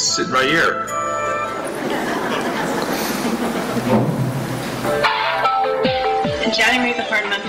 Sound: laughter

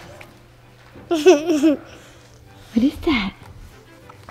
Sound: child laughs

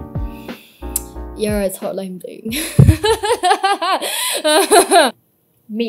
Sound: laughs, with laughter gradually turning pained

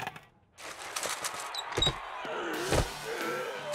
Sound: creaking

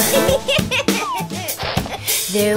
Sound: puppy giggling

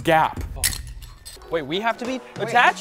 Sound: harness clicks

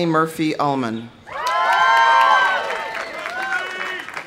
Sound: audience cheering; audience applauding

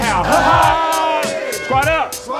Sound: all laughing

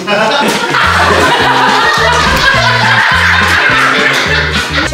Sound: laughing

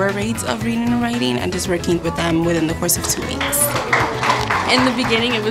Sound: people clapping

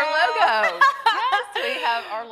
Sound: both laughing

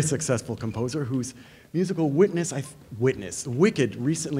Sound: stuttering

